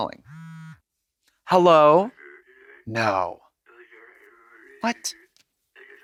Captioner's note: husky mumbles